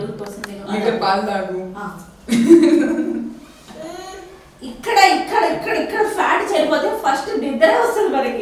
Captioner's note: sarcastically